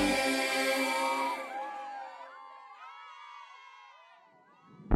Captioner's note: cheering